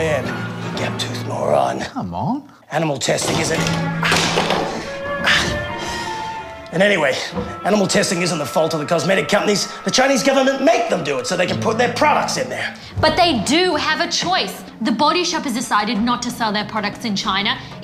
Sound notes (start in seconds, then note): 3.2 clattering